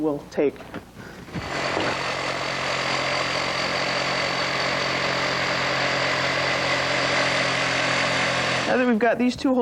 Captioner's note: drilling